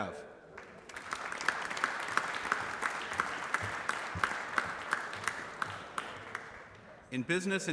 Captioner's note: applause